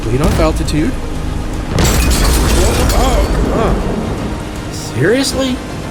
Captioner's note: large cannon shot, port Aetherium tube shatters, storm full volume